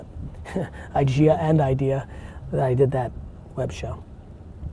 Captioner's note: laughs